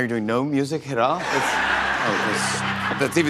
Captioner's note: laughter